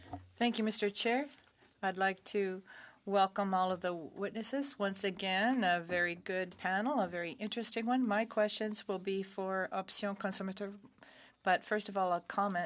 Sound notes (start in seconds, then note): 4.0 speaking French